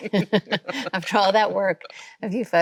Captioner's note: both laughing